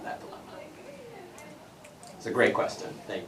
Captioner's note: background chatter